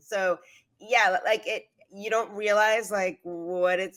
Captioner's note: none